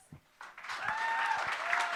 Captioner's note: applause